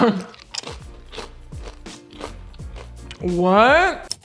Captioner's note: chips crunching